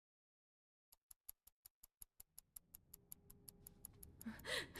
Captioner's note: clock ticking